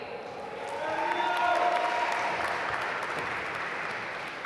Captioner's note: applause